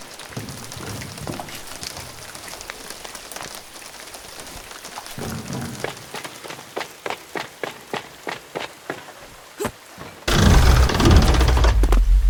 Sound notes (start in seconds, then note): 0.1 raindrops on wood; 5.2 footsteps; 10.2 creaking